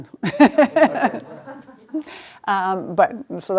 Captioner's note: laughing